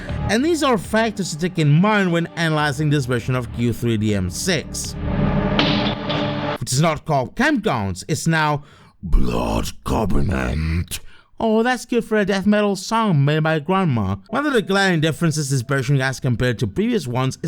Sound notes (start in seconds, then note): 9.1 death metal voice